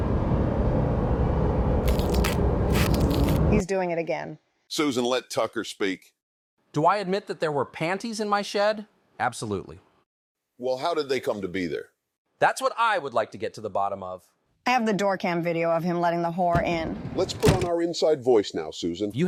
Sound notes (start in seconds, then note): 1.8 visceral cracking sounds